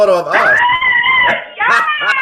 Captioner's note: screams; laughs